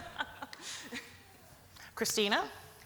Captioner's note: laughs